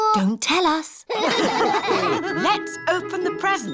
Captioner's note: all laugh